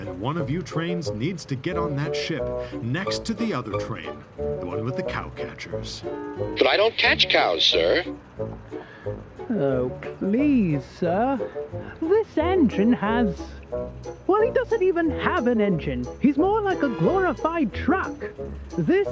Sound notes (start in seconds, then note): 6.5 through a voice box